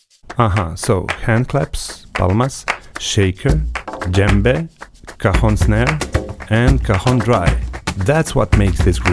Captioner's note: Palmas